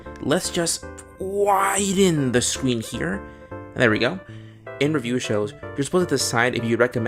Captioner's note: strained voice